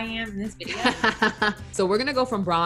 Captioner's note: laughing